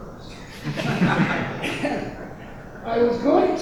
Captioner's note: audience laughing